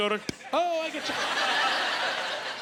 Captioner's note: making "T" sound